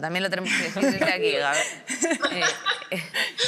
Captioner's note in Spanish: algunos ríen